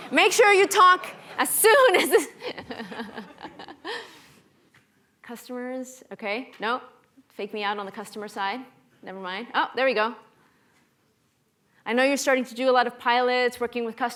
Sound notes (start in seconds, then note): 1.0 laughs